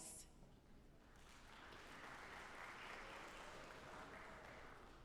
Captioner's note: audience applauding